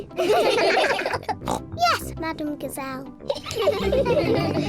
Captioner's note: all laugh; oinks; all giggling